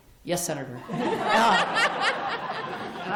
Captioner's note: laughter